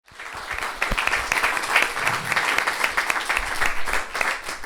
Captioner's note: audience applauding